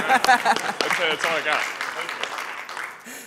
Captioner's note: applause